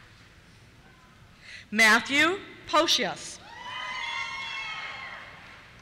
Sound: cheers

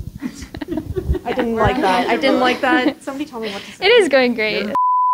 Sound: general laughter

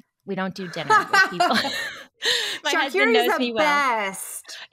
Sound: laughing

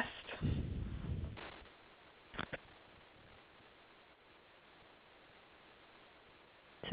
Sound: silence

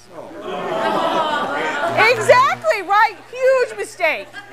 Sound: crowd Yells

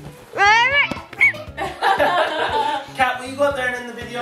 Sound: parents laughing

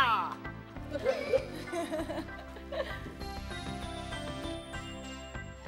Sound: everyone laughs

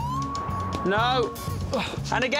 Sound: Alex grunts

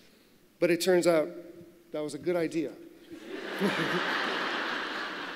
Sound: laughter

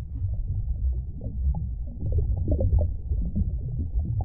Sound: water burbling

